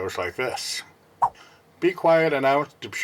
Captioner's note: swipe Sound